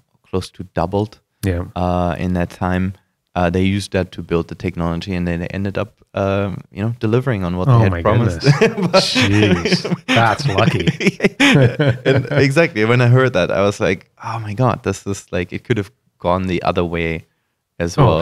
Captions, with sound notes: close to doubled in that time. They used that to build the technology and then they ended up delivering on what they had promised. - Oh my goodness. Jeez, (laughter) That's lucky - Exactly, when I heard that I was like "Oh my God" this is like, it could've gone the other way as well.